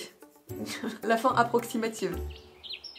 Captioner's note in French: rire